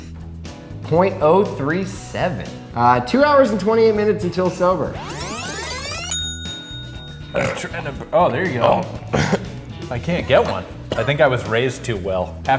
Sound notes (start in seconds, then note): 5.8 ding!; 7.2 burping